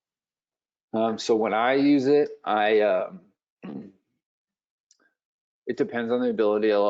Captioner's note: clearing throat